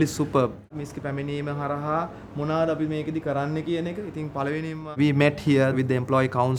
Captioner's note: speaking a foreign language